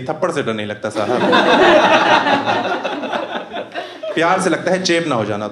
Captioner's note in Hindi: हँसना